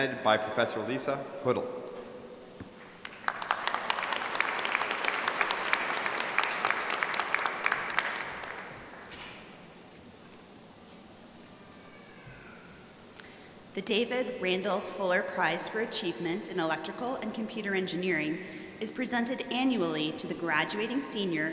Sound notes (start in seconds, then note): 5.8 applause